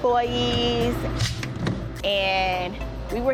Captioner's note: pop holder clicks